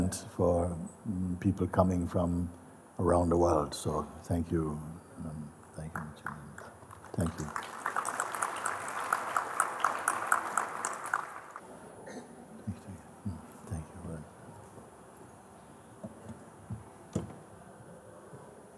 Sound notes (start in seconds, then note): 7.7 Applaus